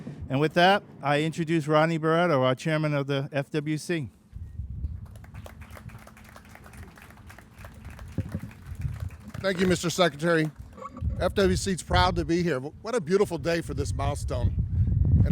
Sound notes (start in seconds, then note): 5.0 crowd applauding